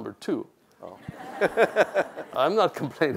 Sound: laughs

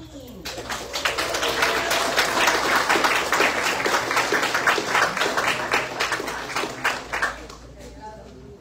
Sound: audience applauds

